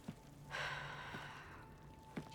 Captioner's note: sigh